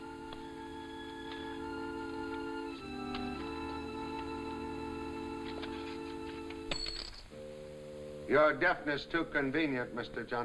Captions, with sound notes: (coin clatters) - Your deafness too convenient, Mr. Johnson.